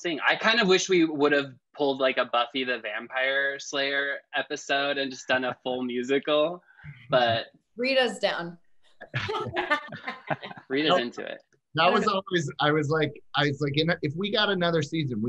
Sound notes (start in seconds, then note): 9.1 laughs